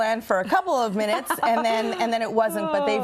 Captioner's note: laughs